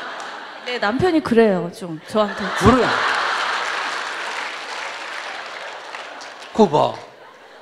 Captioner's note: audience Laughter/Applause